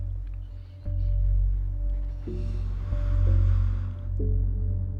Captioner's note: both breathe uneasily